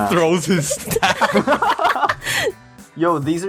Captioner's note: snickering